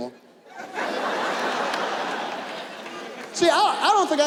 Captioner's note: audience laughs